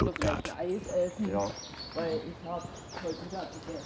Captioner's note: they are talking quietly